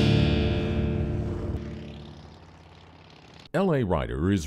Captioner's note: motorcycle whirring